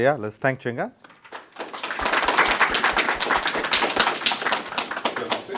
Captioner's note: applause